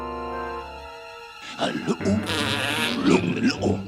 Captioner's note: growling, huffing